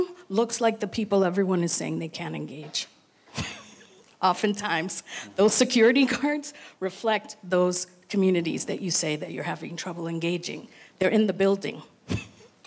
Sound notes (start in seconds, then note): 3.3 laughs